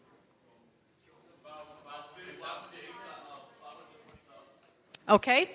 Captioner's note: audience members all talking at once